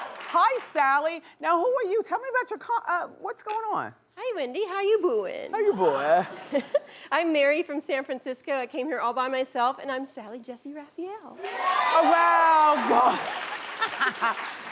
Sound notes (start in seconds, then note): 6.3 laughing; 11.4 cheering; 12.6 laughing